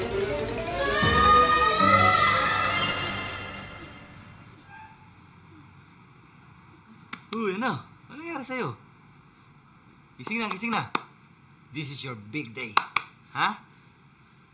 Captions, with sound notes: [screams] Hey, son, what's the matter with you? Time to get up. This is your big day. Okay?